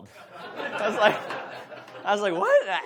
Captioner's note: audience laughs